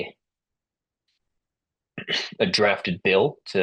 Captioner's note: interpreter clears throat